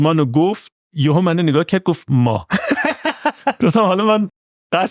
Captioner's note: laughs